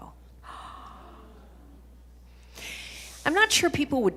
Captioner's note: gasps